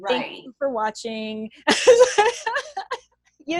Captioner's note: laughs